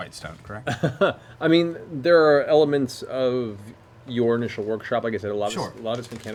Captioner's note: laughs